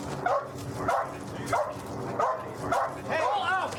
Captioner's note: dog barking